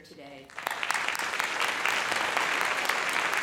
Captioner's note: applause